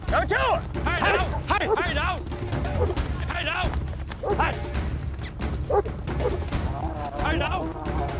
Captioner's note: dog barking; dog barking; dog barking